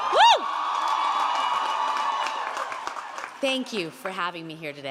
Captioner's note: audience cheering and applauding